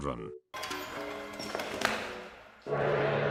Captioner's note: tricycle noises to shoes clacking to stop; gong fading into sinsiter music